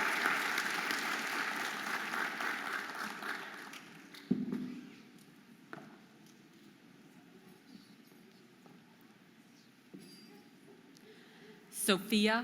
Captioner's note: audience applauding and cheering